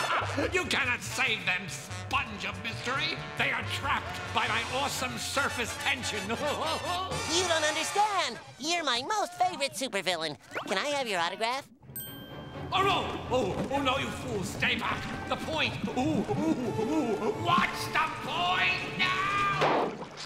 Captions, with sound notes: You cannot save them, Sponge of Mystery! They are trapped by my awesome surface tension! [laughing] You don’t understand! You’re my most favorite supervillain. Can I have your autograph? Oh no! Oh no you fool, stay back! The point! Ooh, ooh, ooh. Watch the point now!